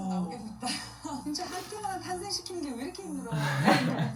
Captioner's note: broadcast sound